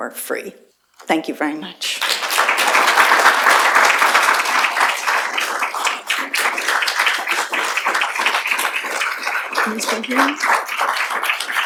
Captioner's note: applause